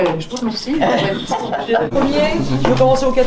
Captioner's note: laugh